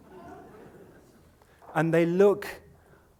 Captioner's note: laughter